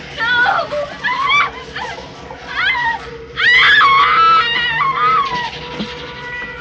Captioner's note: screaming